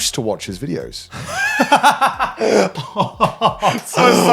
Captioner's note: laughs